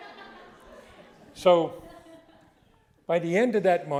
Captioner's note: audience laughing